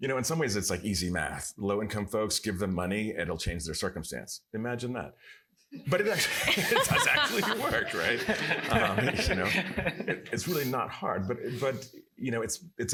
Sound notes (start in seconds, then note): 5.9 laughter